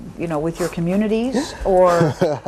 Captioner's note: laughs